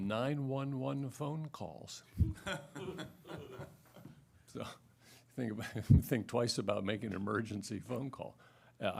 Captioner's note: laughter